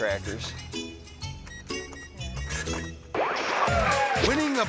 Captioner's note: melodic music; register beeping; screen static